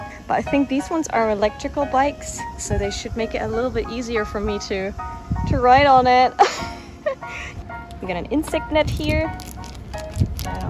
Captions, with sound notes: But I think these ones are electrical bikes, so they should make it a little bit easier for me to ride on it! [LAUGH] We got an insect net here.